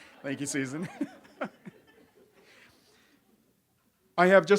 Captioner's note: audience laughs; laughs